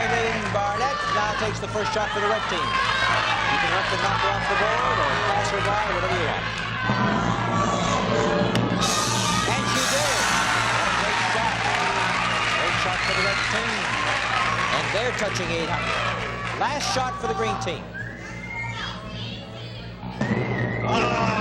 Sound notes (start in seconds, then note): 0.0 applause; 11.1 cheering